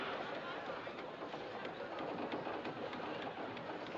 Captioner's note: none